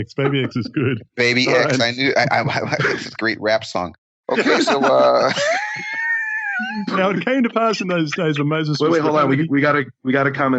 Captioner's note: laughing